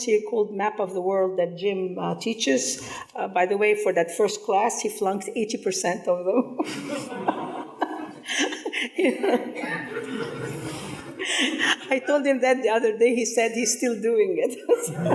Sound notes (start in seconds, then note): 6.4 people laughing; 14.6 people laughing